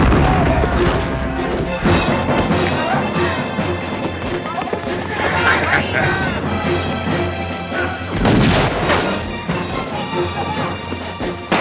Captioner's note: sobbing